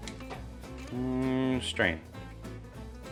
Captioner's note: vocalizes